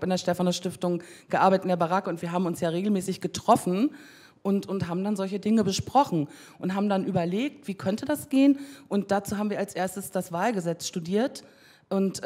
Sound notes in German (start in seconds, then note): none